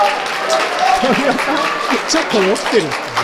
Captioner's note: laughs